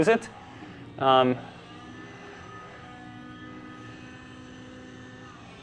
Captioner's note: helicopter propellers whirring